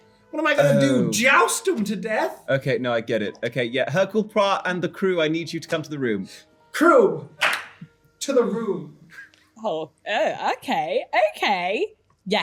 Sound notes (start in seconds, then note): 7.4 claps